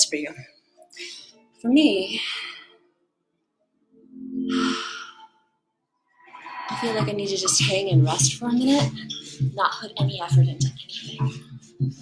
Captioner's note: exhale